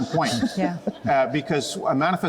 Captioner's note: chuckling